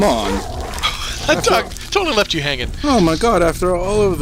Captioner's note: laughing